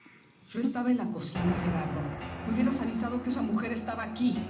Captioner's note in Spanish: voces afuera